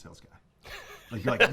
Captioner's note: laughter